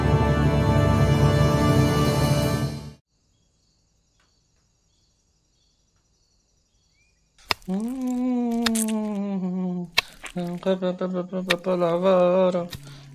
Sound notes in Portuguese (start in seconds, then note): 7.8 Mamona cantarolando; 9.9 som de facão cortando corpo humano